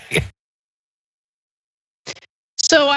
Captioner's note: laugh